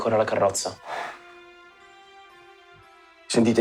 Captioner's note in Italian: Sospira